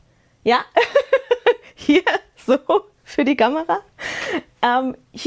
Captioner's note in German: Gelächter